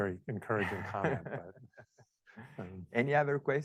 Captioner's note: laughs